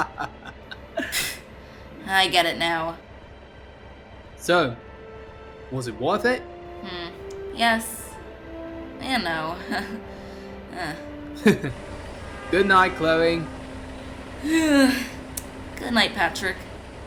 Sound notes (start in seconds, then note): 0.0 laughs; 11.4 chuckles; 14.6 yawns